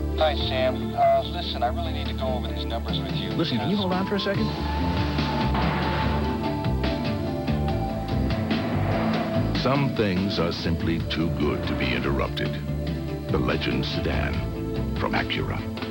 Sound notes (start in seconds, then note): 4.6 car accelerates